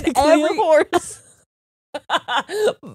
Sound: both laughing

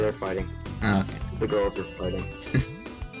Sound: chuckles

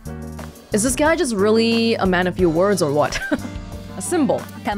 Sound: chuckles

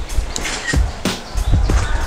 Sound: click

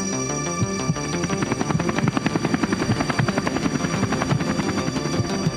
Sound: helicopter whirring

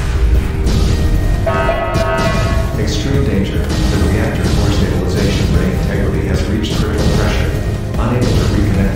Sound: announcement Chime

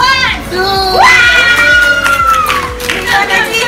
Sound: cheers and applause

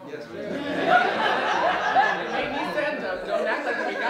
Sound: laughter

